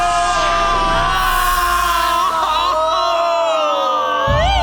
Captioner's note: people screaming